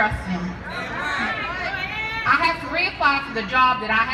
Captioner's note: audience shouting in agreement